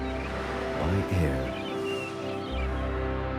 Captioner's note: seagulls crying; soaring piano music